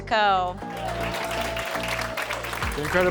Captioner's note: audience cheering